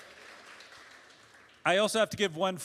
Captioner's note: applause